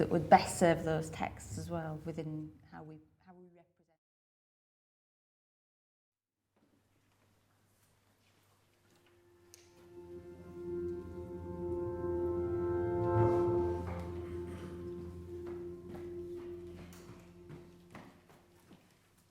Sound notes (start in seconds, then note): 15.7 footsteps echoing